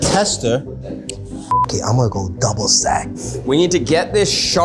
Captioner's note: beeping